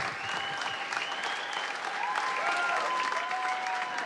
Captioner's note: whistles and cheers